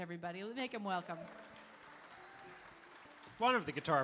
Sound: audience applauding

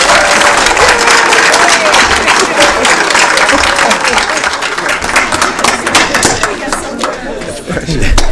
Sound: cheers and applause

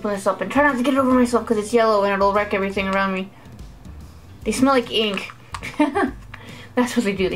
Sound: laugh

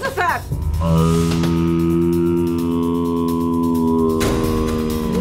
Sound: slow-mo moaning

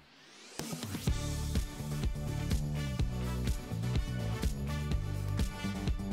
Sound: applause

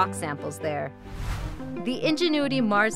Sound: whooshing

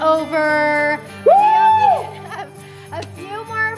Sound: screaming

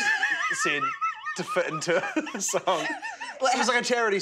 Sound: all laugh

